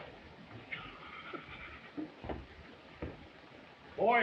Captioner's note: laughing